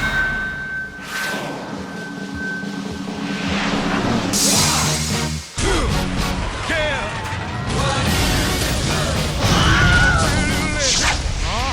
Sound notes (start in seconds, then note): 0.2 drum roll; 9.4 Wilhelm scream